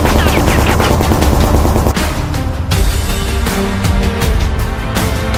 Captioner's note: gunshots banging